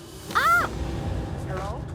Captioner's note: Lena screams